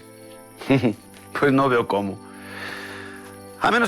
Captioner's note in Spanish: Risas